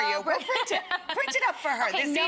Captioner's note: Leah laughing